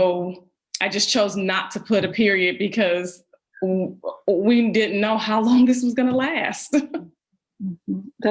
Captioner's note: laughs